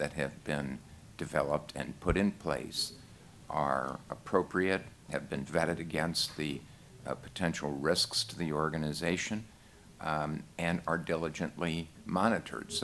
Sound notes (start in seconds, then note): none